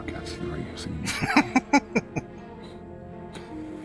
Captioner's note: laughing